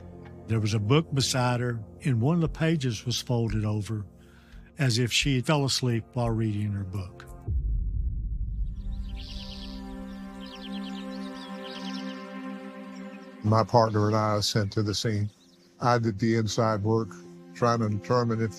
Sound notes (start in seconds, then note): 12.8 birds chirping